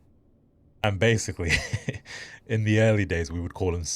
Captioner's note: laughs